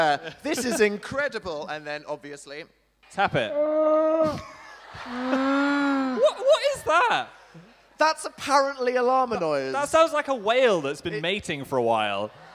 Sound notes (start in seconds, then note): 3.0 llama noise